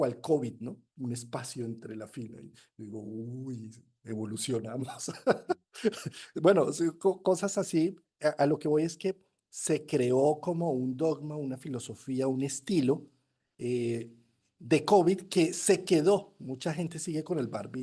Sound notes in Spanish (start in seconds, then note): 5.0 risas